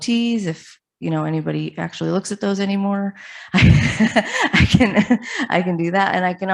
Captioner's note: laughs